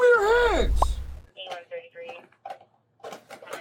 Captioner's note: radio chatter